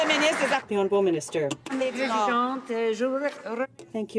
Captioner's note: some Applause